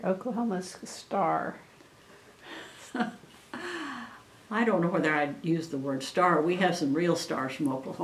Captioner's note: laughs